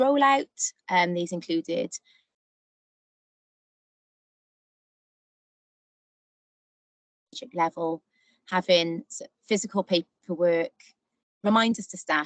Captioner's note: audio break